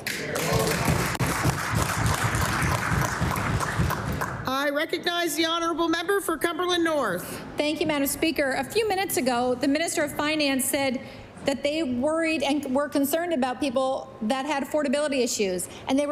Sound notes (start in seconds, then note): 4.3 applause